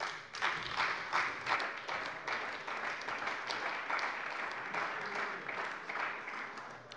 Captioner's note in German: Beifall bei der CDU und dem BÜNDNIS 90/DIE GRÜNEN